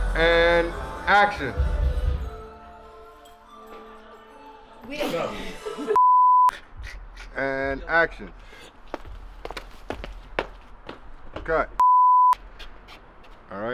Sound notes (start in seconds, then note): 2.2 mellow hiphop music; 6.0 beeps; 8.7 feet thudding; 11.8 beeps